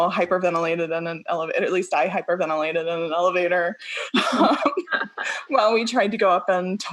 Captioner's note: laughing